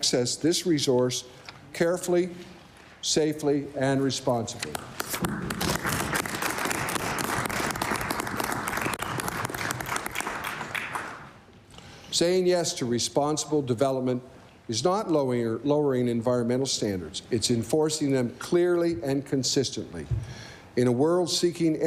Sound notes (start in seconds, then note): 8.5 applause